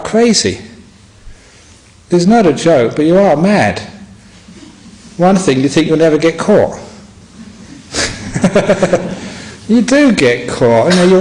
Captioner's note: laughs